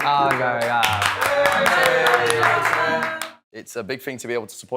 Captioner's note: cheering